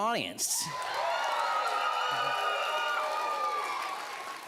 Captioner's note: audience cheering